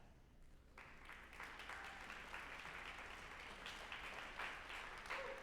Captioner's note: group applauding